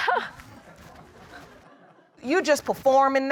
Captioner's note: chuckles